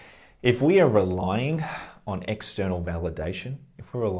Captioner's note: sigh